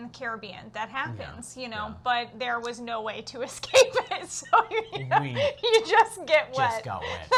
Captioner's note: laughs